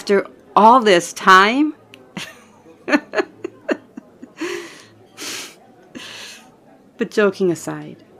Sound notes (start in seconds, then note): 2.2 laugh